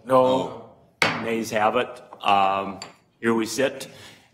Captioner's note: multiple voices; gavel bangs